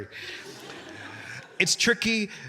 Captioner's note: audience laughing